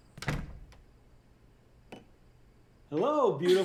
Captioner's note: door thudding